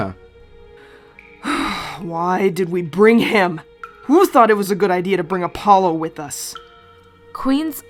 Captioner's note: Venus sighs